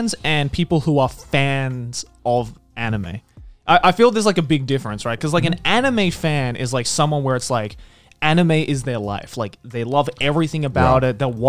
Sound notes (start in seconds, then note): none